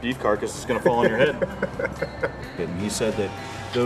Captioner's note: laughing